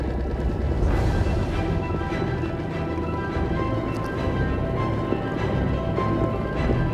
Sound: boat sputters; suspenseful music

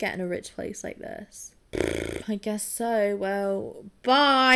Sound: trills

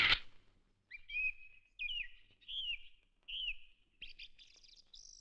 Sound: birds Chirping

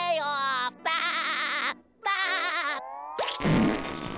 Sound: laughing

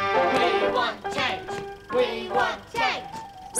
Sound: protesters Chant

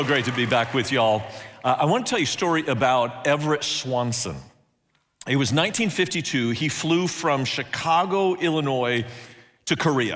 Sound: applauding

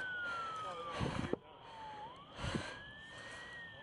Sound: sirens

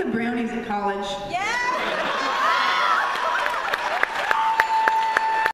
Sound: laughter

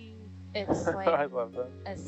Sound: man laughing

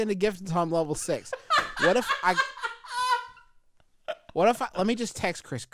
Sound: laughing

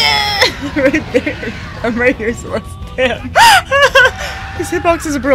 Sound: laughter

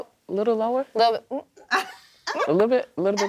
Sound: laughs

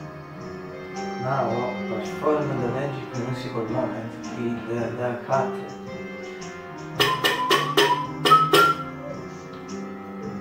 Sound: whistle

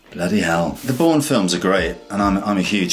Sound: upbeat instrumental music; air whooshes

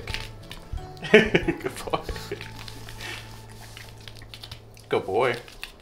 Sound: laughs

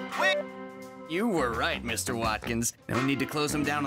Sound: phone beeping

